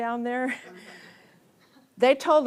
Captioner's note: audience laughs